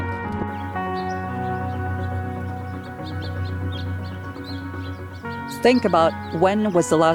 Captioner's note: birds chirping